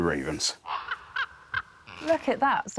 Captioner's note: raven squawks